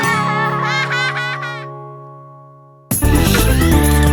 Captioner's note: children laugh